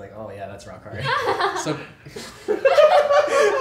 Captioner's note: everyone laughs